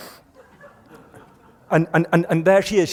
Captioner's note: laughter